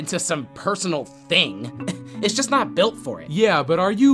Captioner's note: scoffs